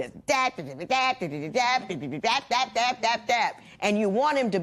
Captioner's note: imitating nagging